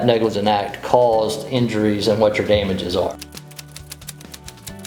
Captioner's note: typing